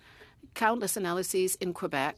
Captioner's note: speaking French